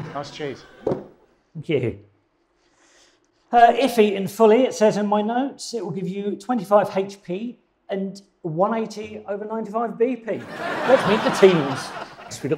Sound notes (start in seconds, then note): 10.4 audience laughing